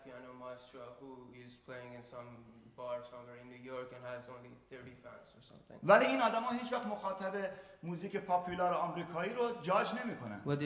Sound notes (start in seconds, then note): 5.7 speaking in farsi